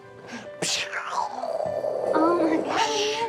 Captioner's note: making funny noises